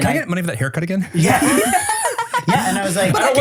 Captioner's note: everyone laughs